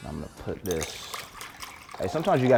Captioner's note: liquid pouring